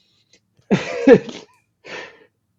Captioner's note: laughs